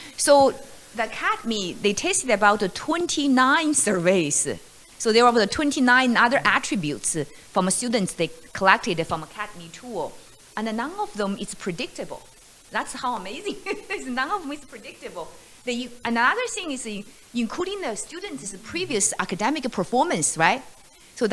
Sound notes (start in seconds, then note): 13.4 laughs